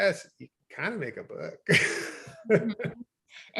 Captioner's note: chuckles